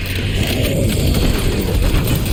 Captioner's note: monster growls; explosions booming; guns blasting